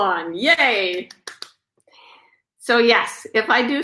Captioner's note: claps